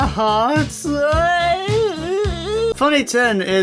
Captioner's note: cries